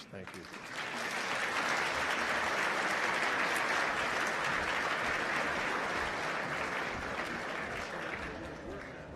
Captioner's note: applause